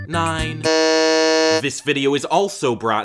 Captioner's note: buzzer